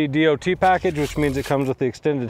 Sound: words whooshing

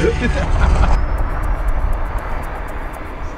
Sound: laughing

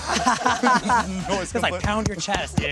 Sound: laughing

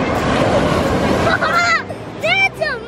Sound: waves crashing

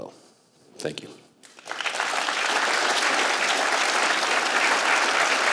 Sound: applause

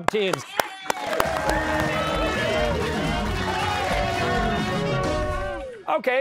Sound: cheers and applause

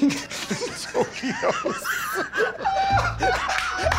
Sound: laughing; laughter

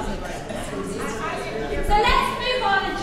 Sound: group talking

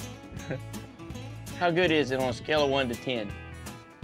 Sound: laughing; laughs

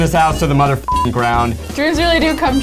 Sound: beep

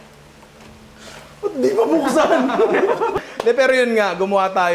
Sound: laughter

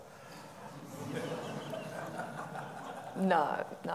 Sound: audience laughing

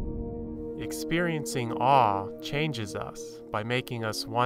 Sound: voiceover

